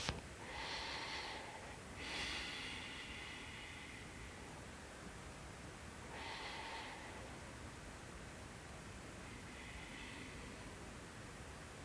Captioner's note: breathing